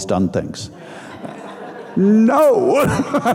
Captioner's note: audience laughing; laughing